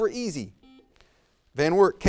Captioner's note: buzzer buzzes